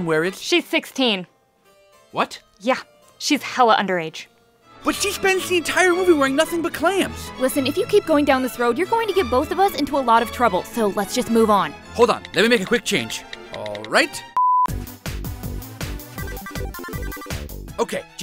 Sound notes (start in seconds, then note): 14.3 beep; 14.7 upbeat techno music